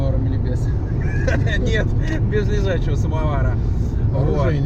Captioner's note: laughs